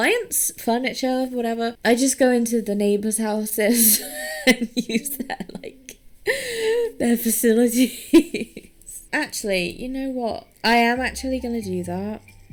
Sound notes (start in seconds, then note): 6.3 wheezing